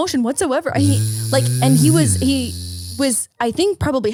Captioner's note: imitating car sounds